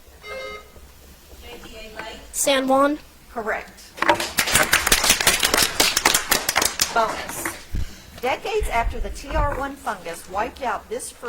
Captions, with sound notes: (bell ringing) - JBA, Nate. - San Juan. - Correct. (audience applauds) - Bonus. Decades after the TR one fungus wiped out this fruit's